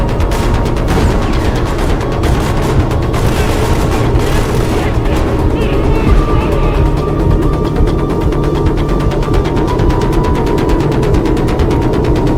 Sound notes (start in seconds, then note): 0.8 gunfire blasting; 8.8 intense music continues